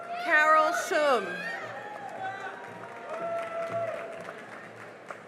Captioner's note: cheering and applause